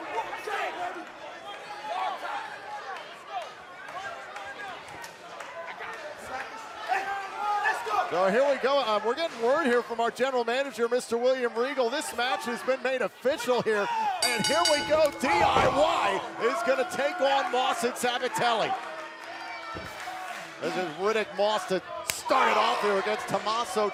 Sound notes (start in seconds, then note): 0.0 cheers and applause; 14.2 bell ringing